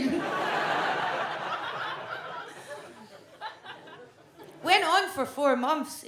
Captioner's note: audience laughs